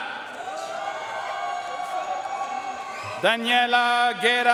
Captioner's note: audience cheering and applauding